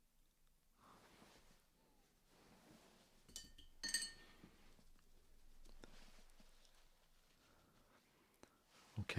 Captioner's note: silence